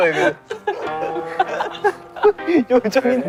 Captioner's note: unable to hold the laughter